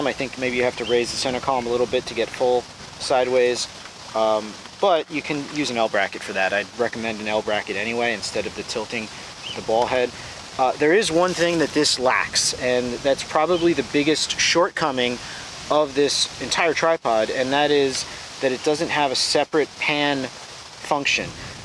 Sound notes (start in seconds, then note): 0.4 bird chirping; 9.0 bird chirping; 9.5 wind whirring